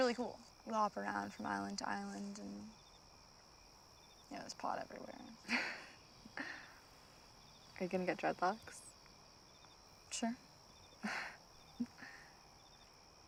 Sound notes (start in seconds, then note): 5.4 Scarlet chuckles; 11.8 Scarlet chuckles